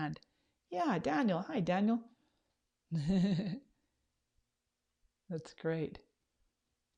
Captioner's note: laughs